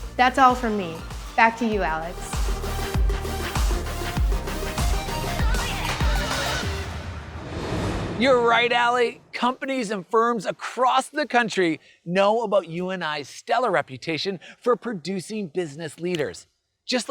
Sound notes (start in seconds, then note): 2.3 bright music; 6.3 graphics whooshing